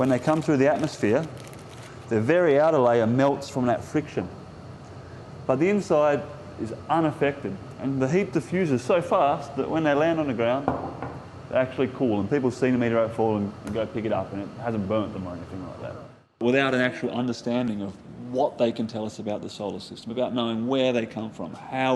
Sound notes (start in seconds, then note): 10.7 knocking